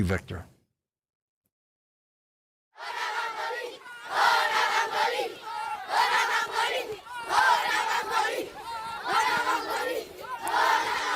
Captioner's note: chanting